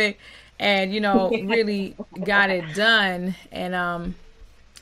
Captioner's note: both chuckling